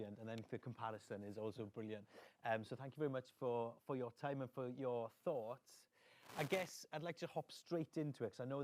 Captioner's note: none